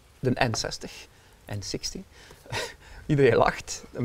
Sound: chuckles

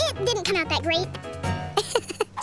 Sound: laughing

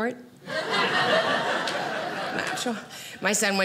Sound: audience laughing

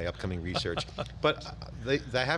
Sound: laughs

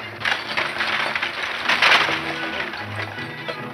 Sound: wagon creaking

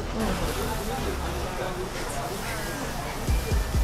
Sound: meat sizzling

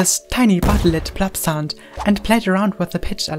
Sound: loud boom

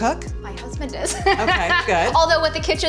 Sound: laughs

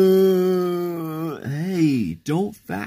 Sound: crying

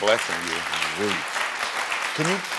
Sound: audience applauds

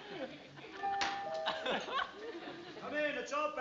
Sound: doorbell tone

